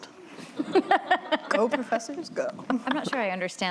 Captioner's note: laughter